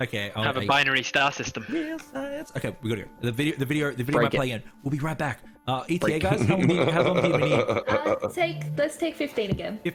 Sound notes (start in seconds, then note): 6.3 laughter